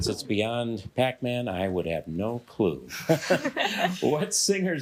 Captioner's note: all laughing